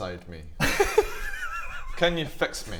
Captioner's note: inappropriate giggles